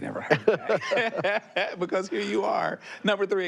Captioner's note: both laughing